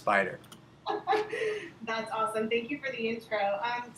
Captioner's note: laughing